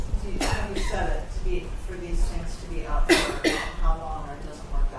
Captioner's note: coughing; coughing